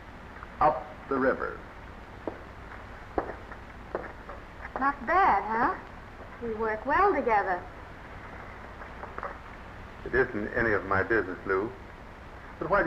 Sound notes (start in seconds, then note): none